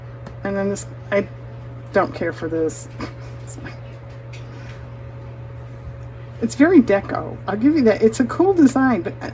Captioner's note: laughs